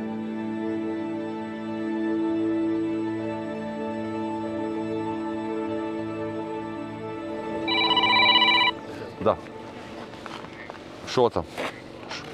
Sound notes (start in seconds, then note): 7.6 phone call